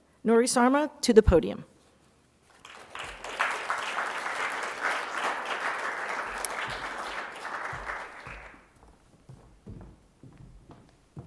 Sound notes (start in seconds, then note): 2.5 applause